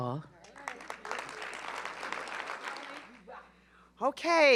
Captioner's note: applause